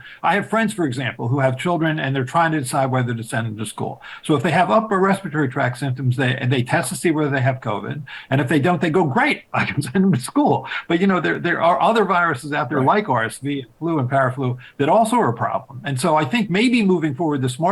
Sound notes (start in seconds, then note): 9.5 chuckling